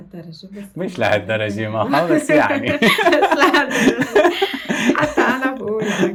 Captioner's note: laughs